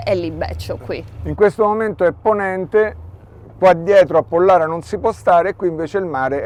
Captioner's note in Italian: west wind